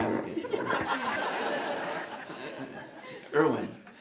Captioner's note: laughing